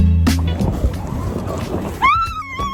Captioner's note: wind blowing; screaming